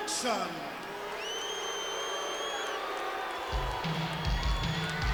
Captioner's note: audience booing; upbeat music